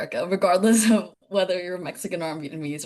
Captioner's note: laughing